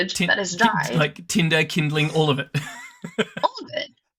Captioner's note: laughs